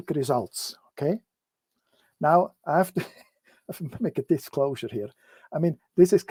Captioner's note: laughter